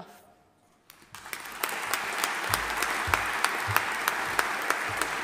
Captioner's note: audience applauding